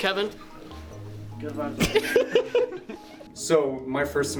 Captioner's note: laughter